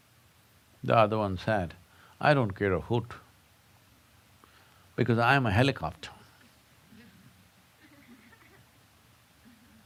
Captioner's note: laughter